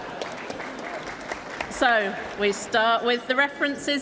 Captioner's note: applause